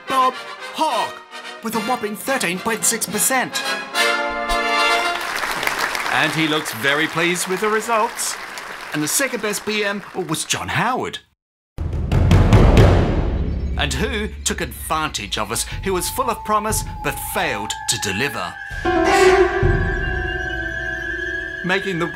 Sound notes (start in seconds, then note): 4.6 audience applauding